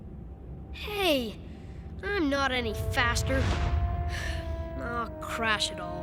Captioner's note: sighs